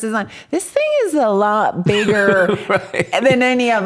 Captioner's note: laughs